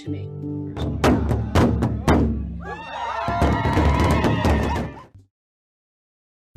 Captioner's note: upbeat drum music; screams